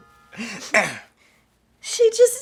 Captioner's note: Irving clears his throat; Irving giggles